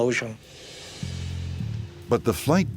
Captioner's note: whooshing